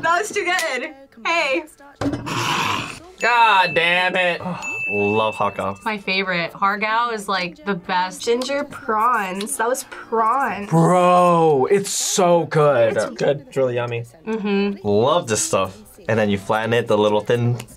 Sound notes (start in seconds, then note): 2.5 laughs; 3.2 bell rings